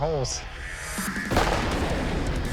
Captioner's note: gunshot